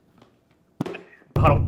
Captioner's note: smack